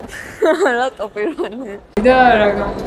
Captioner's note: giggle